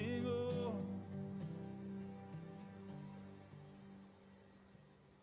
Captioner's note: background static